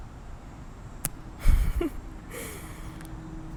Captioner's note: laughter